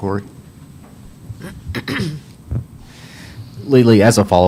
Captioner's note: someone clears their throat